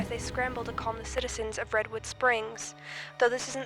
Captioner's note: news broadcast